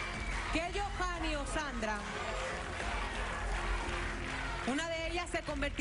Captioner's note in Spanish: aplausos